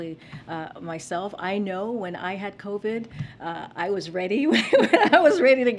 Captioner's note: laughs